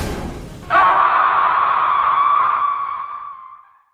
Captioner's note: ghost scream